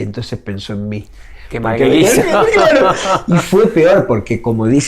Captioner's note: laughs